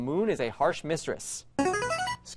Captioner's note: player buzzer